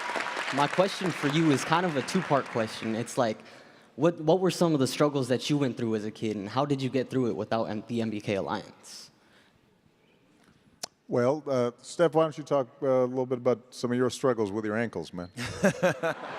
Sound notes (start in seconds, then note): 4.0 applause